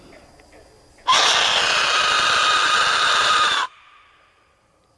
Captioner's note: loud screaming sound; katydids forest sounds